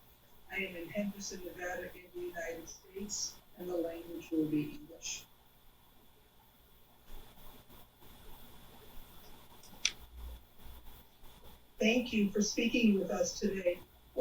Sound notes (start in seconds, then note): 5.2 pauses 6 seconds